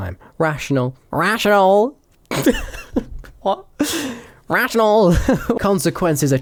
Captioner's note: laughing